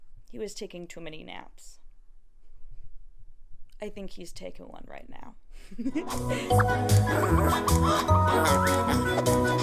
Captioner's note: cute giggles